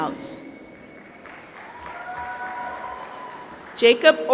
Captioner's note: applause